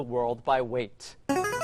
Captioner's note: ringer